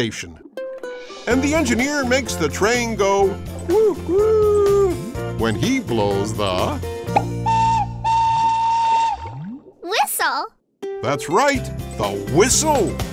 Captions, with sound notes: And the engineer makes the train go woot woot when he blows the... [whistle blowing] -Whistle! -That's right, the whistle!